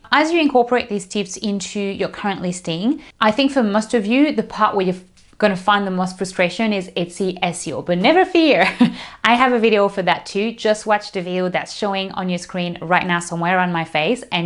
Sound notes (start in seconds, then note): 8.4 laughs